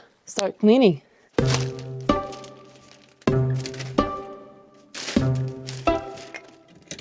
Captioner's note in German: Rascheln von Papier; Geheimnisvolle Musik